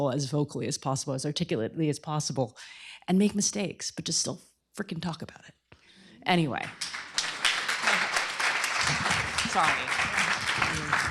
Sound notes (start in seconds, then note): 6.6 applause